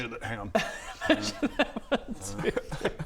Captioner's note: laughs